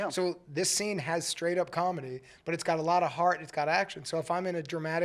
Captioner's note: none